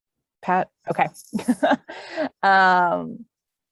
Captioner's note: laughs